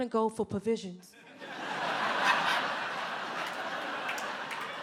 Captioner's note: audience laughs